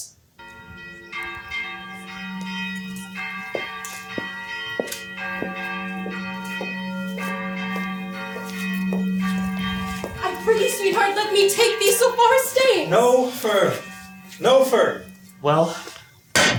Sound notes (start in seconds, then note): 1.0 church bells chime